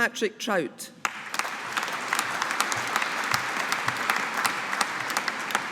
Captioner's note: audience applauding